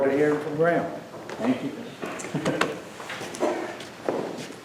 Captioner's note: chuckles